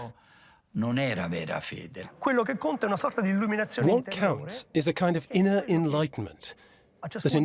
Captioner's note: in Italian